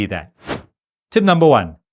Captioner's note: air whooshing